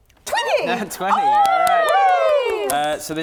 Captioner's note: cheering